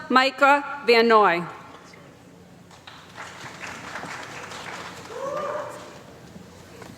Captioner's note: applause